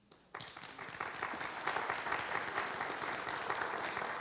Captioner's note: audience applauding